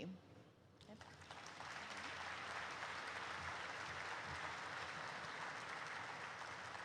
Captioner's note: applause erupts